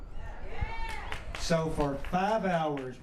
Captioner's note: cheers